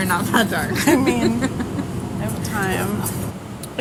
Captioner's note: laughter